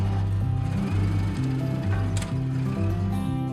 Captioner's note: forklift moving